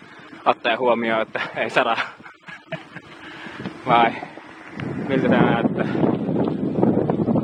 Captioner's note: laughter